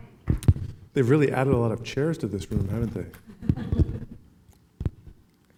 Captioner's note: laughing